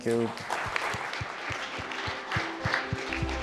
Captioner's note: applause